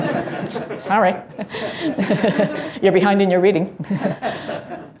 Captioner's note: laugh